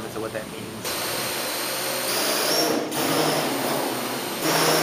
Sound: buzzing

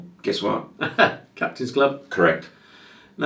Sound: laughs

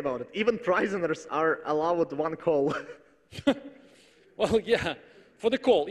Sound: laughs

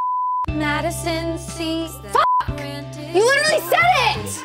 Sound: beep

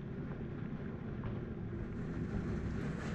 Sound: boiling sounds intensify

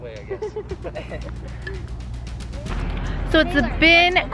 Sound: laughing

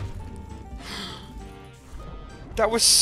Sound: gasp

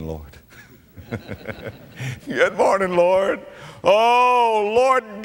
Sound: audience laughter

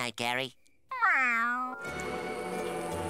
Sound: meowing

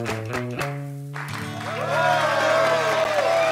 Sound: audience cheering

